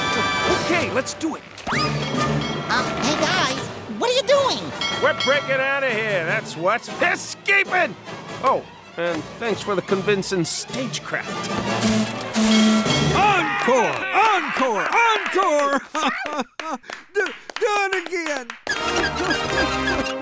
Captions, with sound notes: OK, let's do it. Um, hey guys, what are you doing? We're breaking out of here, that's what, escaping! Oh, and thanks for the convincing stagecraft. [foghorn blowing] Encore! Encore! Encore! [crying] Do-- Do it again. [crying]